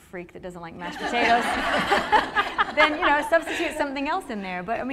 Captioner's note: laughter